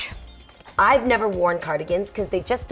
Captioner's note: tsks